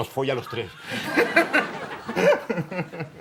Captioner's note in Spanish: Risas